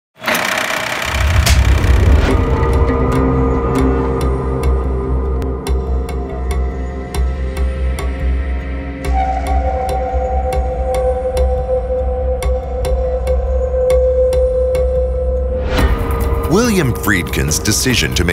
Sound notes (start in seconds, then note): 0.5 projector clicks; 2.3 dramatic music